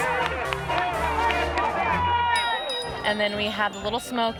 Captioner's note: crowd cheering